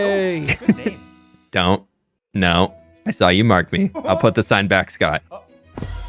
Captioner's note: fwhip